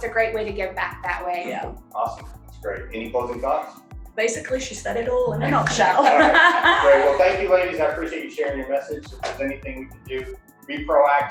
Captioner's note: all laugh